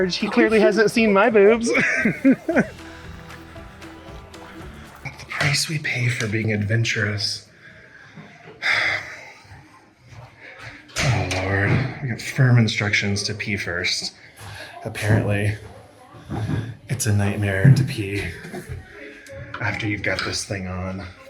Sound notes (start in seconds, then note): 2.9 laughs; 8.5 sighs